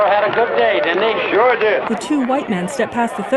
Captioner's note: scattered conversations